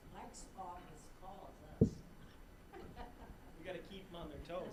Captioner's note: all laughing